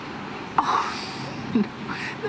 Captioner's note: chuckles